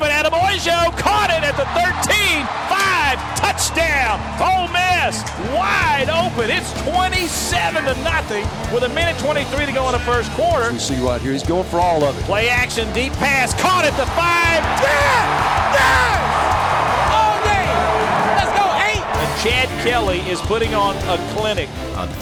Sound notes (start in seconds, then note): 14.7 yelling; 22.1 voiceover